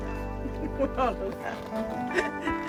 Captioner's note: laughter